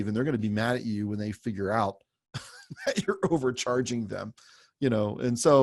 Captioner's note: laughs